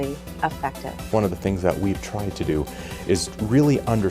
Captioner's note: voiceover